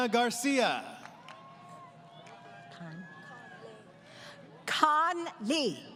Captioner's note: applause